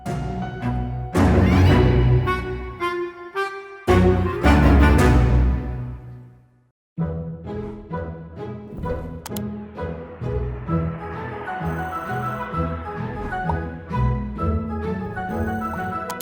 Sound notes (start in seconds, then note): 0.0 dramatic music; 7.2 cheerful music; 9.2 mouse clicking